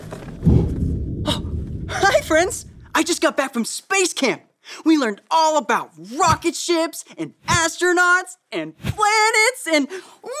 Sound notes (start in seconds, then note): 0.0 feet thud